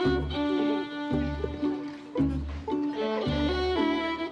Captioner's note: kids chattering